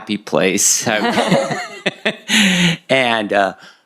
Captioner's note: laughter